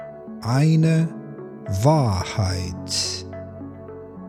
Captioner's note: german